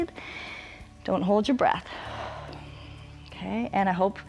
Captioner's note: inhales; exhales